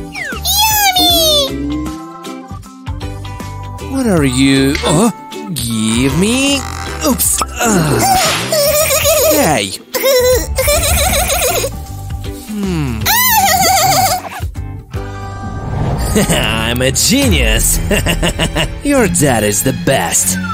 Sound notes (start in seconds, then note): 8.3 laugh; 17.7 laughs viciously